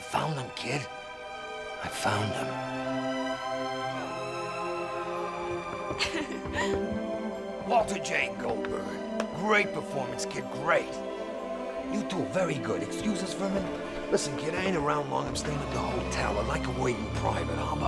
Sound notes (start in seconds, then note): 2.7 peaceful instrumental music; 5.9 Hannah laughing